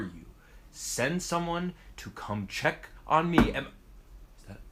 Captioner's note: thump